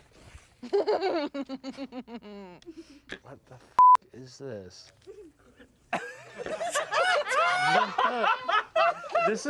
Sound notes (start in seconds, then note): 3.8 beep; 6.0 everyone laughs